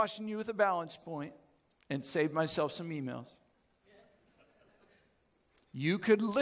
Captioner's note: audience chuckles